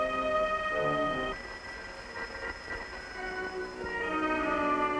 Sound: telephone ringing

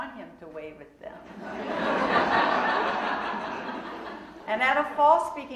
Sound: audience laughing

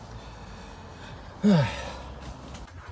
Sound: sigh

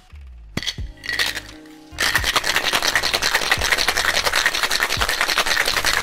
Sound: ice clicking against glass

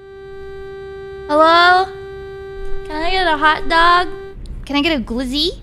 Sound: leaning on horn

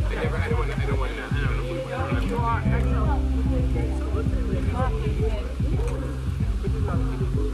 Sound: people chatting indistinctly

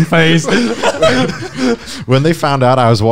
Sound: laughing loudly

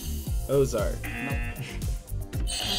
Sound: buzzer; buzzer rings

